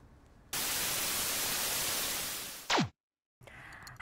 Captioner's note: static hissing